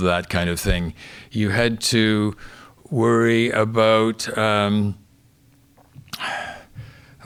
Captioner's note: sighs